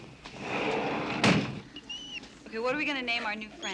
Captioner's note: door closing; squeals